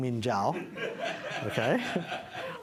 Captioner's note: laughter